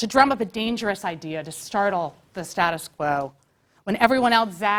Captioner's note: none